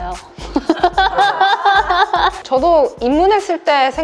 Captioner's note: laughter